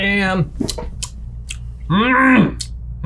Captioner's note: smacks lips